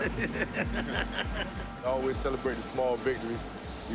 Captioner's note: laughs